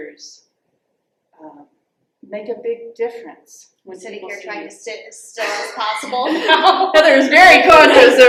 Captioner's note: laughter